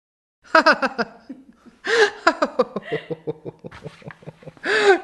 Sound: laughter

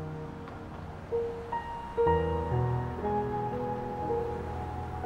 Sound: dramatic music; car engine humming

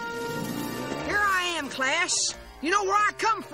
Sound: southern accent

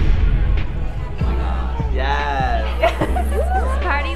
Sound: laughter

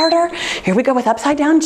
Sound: timer beeps

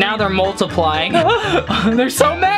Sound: laughing

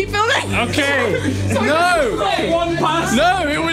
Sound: shouting

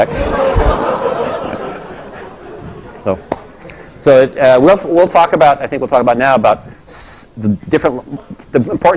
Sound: laugh

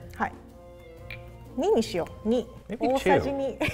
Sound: speaks in foreign language

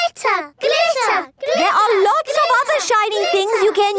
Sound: chanting

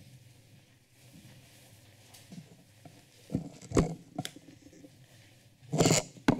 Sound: none

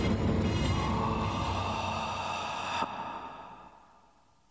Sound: eerie breathing sound

